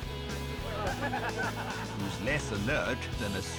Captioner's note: stags cackling